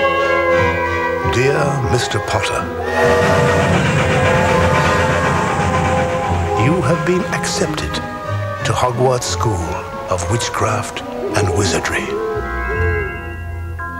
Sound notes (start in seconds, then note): 3.3 train whistles